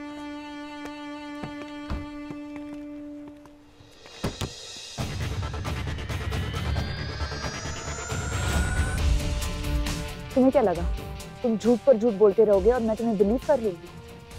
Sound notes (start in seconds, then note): 1.8 car door opens; 4.2 car door closes